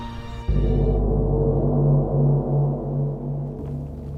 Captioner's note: gong crashing